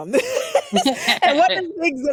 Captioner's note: laughing